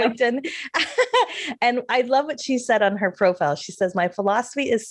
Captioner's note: laughs